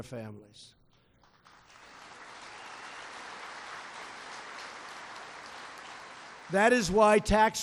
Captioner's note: applause